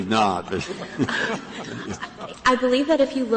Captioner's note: laughter